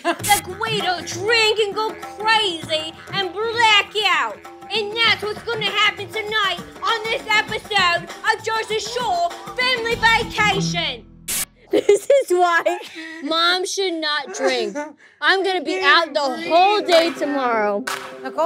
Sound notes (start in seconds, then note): 14.2 JWoww laughing